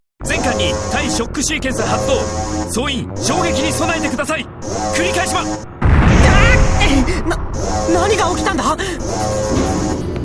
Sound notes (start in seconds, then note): 6.2 panicked cry